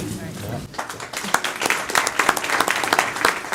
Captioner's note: clapping